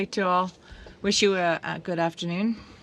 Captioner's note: speaking in French